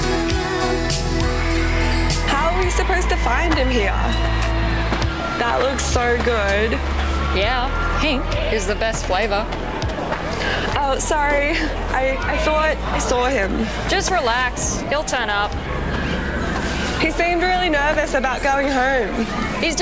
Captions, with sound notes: (children cheering) - How are we supposed to find him here? That looks so good. - Yeah. Pink is the best flavor. - Oh sorry, I thought I saw him. - Just relax, he'll turn up. - He seemed really nervous about going home.